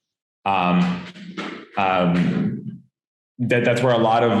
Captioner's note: metal clanking